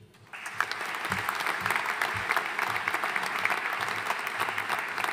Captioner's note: audience applauding